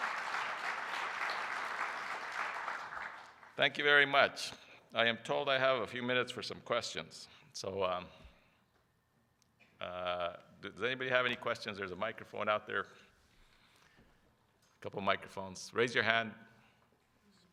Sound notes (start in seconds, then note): 3.8 applause